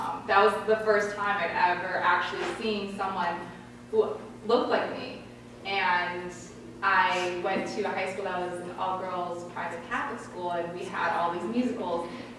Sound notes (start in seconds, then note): none